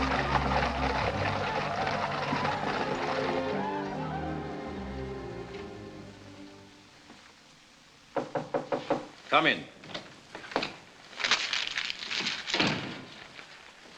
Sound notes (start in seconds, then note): 8.1 knock on door